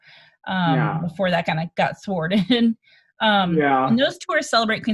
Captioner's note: laughs